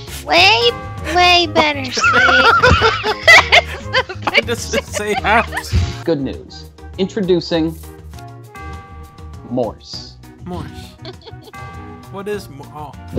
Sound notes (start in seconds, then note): 1.7 they're all laughing